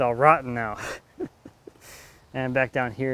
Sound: giggles

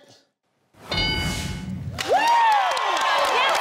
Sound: bell dings; audience cheering

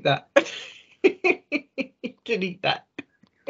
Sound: laughing

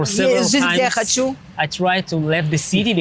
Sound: speaking in foreign language

